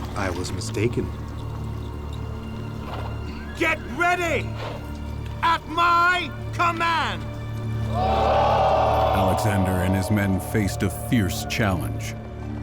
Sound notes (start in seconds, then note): 7.9 all exclaiming